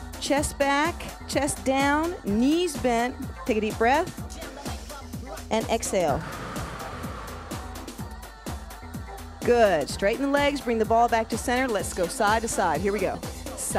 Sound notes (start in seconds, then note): 6.1 breath hisses